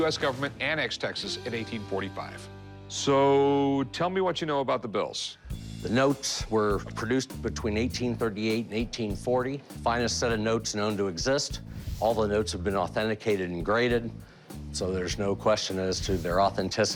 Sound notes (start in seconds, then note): none